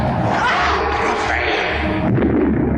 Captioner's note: woman yelling; bomb exploding